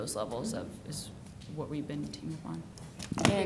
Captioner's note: speaking faintly